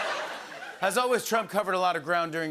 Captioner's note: normal voice